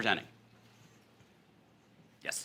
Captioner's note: pause